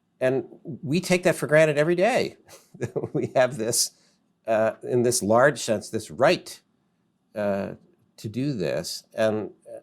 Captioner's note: laughs